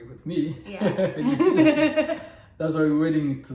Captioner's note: both laugh